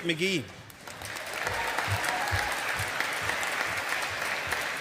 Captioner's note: audience applauding